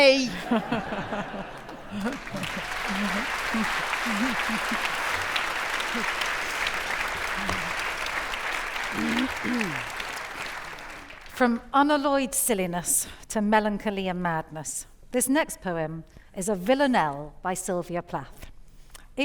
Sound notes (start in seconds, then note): 0.3 audience laughing; 2.4 audience applauding